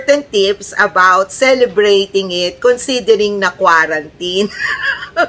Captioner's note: laughter